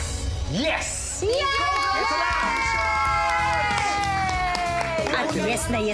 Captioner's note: judges cheer